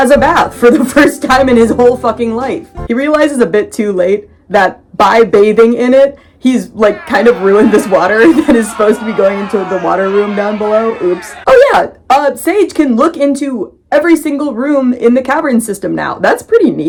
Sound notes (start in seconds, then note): 6.8 crowd booing